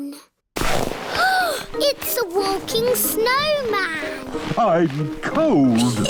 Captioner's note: gasps